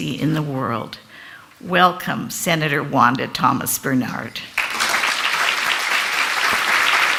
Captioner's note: Applaudissements